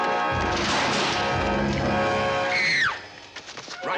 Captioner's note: table clatters; Nicole screams